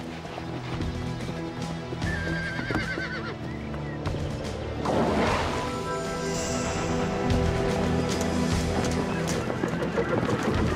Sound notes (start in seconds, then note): 2.0 horse whinnies distantly